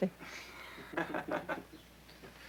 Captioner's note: laughing